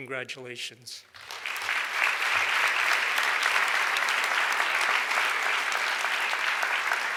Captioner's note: audience applauds